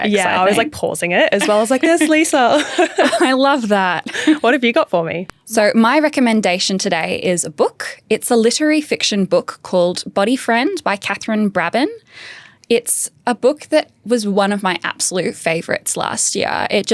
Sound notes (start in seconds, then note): 1.4 both laughing